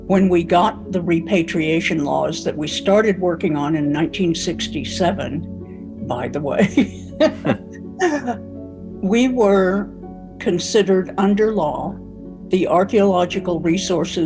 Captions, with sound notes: when we got the repatriation laws that we started working on in 1967, by the way, (laughs) we were considered under law the archeological resources